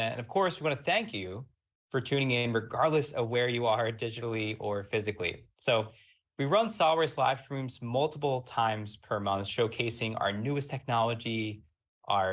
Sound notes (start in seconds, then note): none